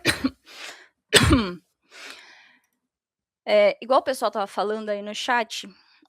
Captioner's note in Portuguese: suspirando